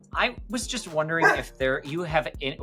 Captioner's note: dog barking